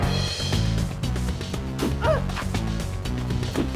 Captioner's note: action music; grunts